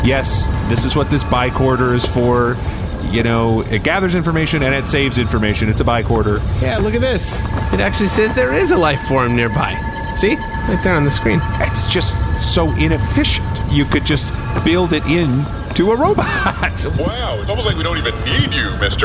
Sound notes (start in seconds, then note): 6.9 bicorder chimes